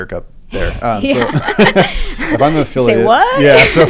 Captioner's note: laugh